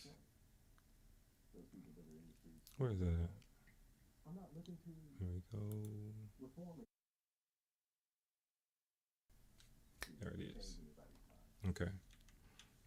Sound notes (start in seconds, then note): 0.1 blank Audio; 7.9 blank Audio